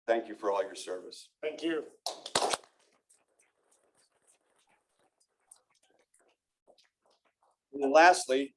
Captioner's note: applause